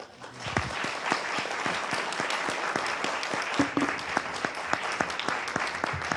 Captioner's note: applause